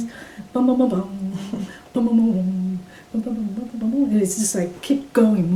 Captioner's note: hums